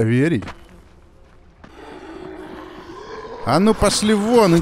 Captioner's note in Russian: Рычат зомби